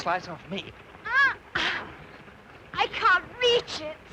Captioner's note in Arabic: آيريس تتأوه